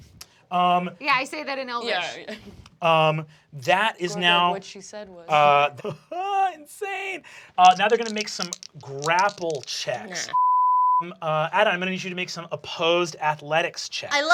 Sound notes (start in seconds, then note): 5.3 laughs